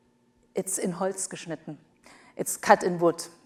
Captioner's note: speaks foreign language